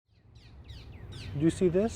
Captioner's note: birds chirping